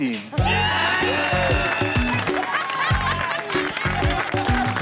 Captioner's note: orange team cheers